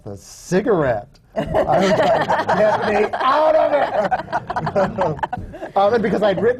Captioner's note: laughter